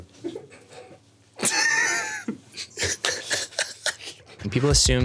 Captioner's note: laughing